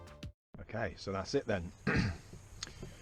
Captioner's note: cough